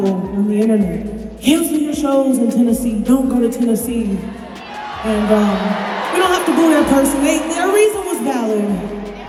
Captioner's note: applause